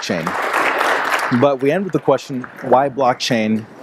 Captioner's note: applause